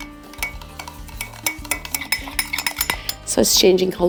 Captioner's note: spoon clacking; gentle bright music